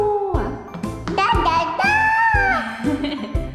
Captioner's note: ㅋㅋ